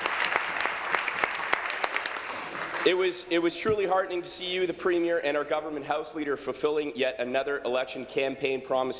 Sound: applause

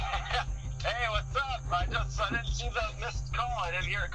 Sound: laughs

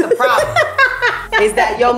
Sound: laughing

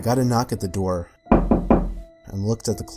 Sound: knock knock knock

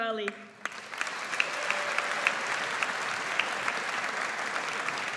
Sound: audience applauds

